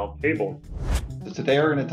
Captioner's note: whooshing